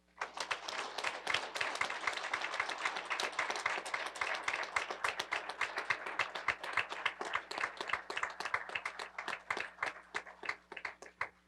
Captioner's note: applause